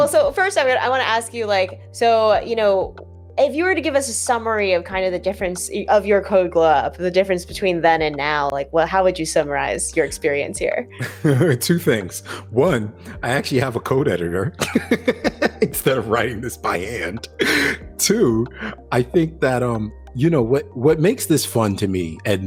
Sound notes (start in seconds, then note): 11.0 chuckles; 14.6 laughs